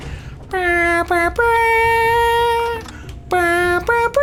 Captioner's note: imitates trumpet